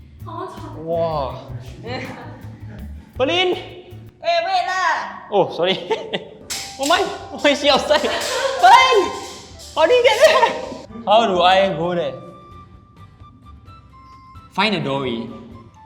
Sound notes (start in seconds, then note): 8.0 girly shriek